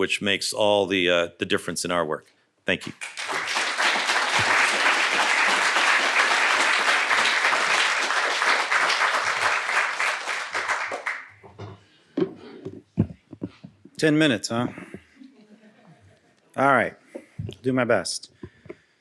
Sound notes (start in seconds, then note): 2.8 applause